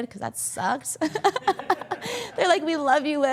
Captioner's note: all laughing